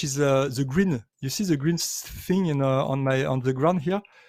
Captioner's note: none